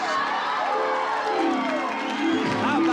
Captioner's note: dreamy harp music; cheering